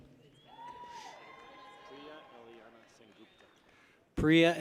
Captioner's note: people cheer